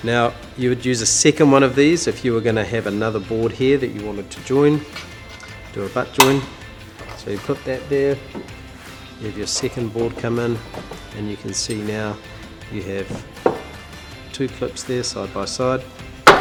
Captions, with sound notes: Now, you would use a second one of these if you were gonna have another board here that you wanted to join. Do a back join. (snapping) So you clip that there and have your second board come in and you can see now you have two clips there side-by-side.